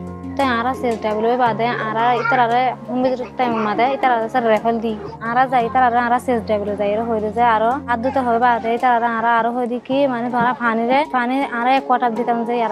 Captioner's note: foreign language 00:41:09; foreign language 00:41:11